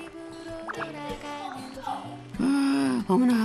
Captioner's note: bubbling